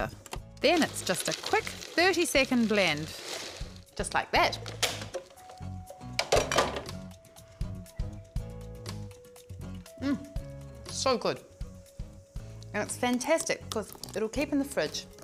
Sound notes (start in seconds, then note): 6.2 lid clanks on counter